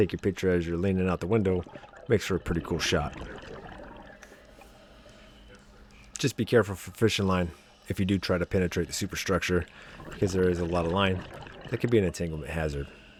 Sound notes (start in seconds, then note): 6.1 water Sounds